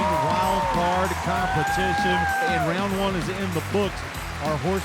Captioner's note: crowd cheering